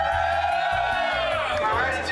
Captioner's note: cheering